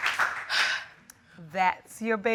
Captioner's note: sighs